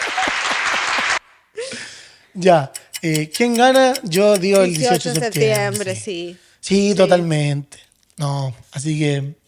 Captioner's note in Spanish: aplausos